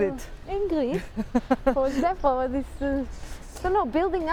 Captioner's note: laughing